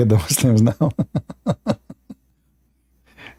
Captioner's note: Ketawa